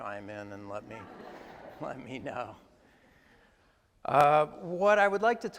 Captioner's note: attendees laugh